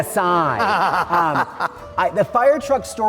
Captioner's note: laughs